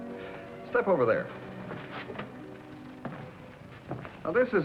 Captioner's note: footsteps